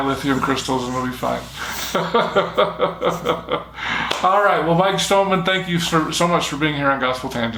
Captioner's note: chuckling